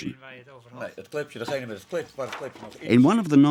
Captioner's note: scientist speaking foreign language